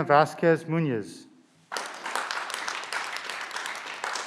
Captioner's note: clapping